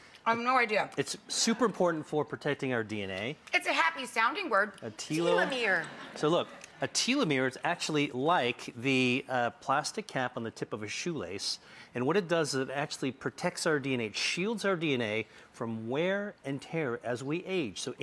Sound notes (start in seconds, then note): 5.2 audience laughs